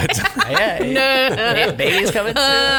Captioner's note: laughs